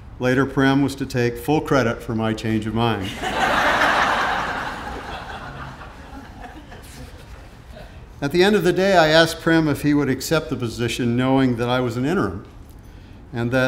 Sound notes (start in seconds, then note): 3.0 audience laughing